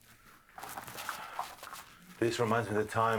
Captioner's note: footsteps clanging